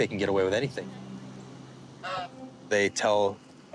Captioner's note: goose honking